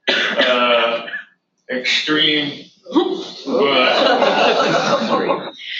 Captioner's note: audience laughter